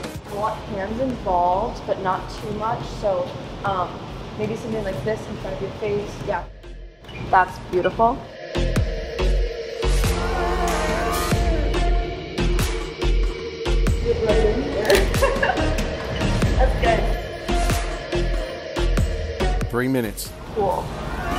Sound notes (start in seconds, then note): 8.5 dramatic music; 14.8 laughing